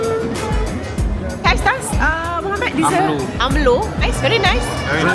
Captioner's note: speaking German